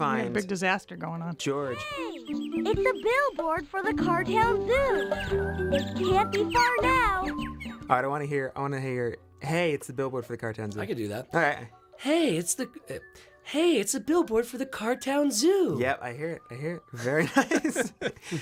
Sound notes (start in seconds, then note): 12.4 in Putt-Putt voice; 17.2 laughs